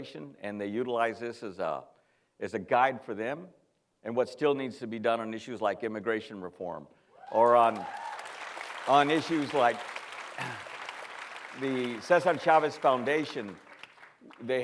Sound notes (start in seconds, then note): 7.6 applause